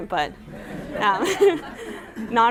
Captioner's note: laughter